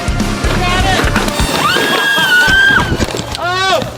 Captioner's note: screaming